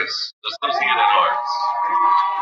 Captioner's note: cheering; cheers and Applause